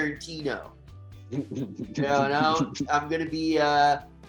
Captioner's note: chuckling